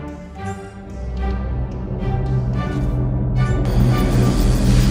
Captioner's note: throttle powering up; warp engines engaging